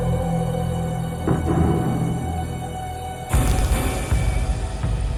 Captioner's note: dummy thuds; suspenseful music